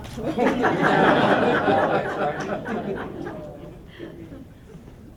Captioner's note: laughter